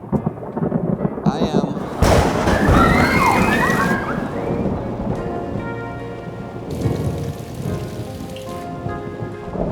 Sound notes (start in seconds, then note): 1.8 screaming; 4.1 thunder rumbling